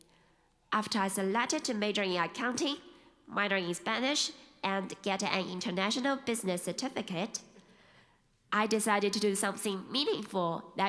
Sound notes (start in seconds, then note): none